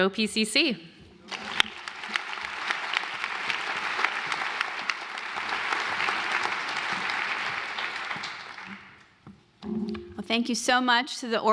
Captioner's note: applause